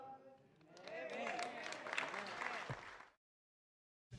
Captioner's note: applause